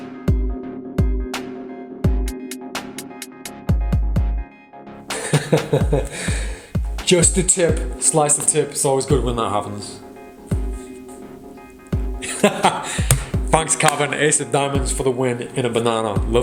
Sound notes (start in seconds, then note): 0.3 upbeat music; 5.1 laughs; 12.2 laughs